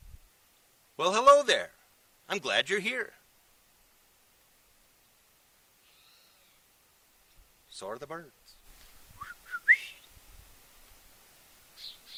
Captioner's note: whistling, bird sounds